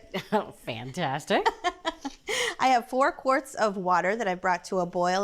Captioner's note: laughs